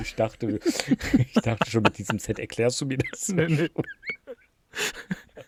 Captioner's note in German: gelächter